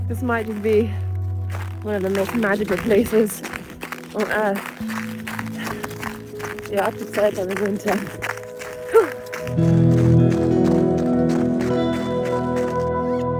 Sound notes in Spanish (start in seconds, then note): 4.9 la nieve cruje; 8.3 la nieve cruje; 10.0 música suave; 13.2 silbido de cremallera